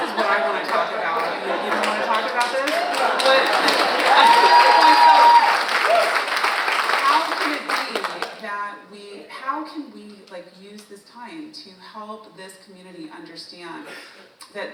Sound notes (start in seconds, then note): 5.1 audience applauding; 5.1 audience cheering